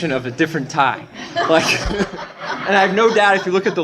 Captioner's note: laughter